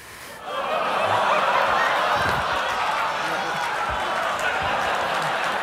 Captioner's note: audience exclaiming and laughing